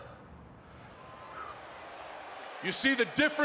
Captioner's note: Mark panting; crowd cheering